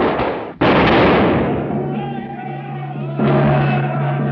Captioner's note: shots firing; all shouting